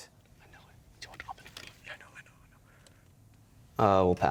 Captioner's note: whispering; whispering